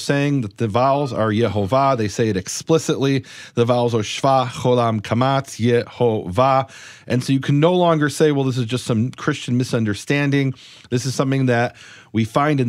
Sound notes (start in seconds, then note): 4.3 speaks in foreign language